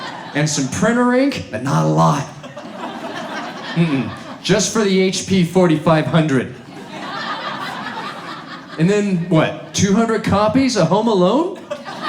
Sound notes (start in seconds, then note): 6.5 audience laughs